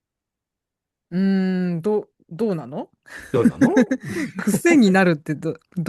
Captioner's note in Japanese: 笑い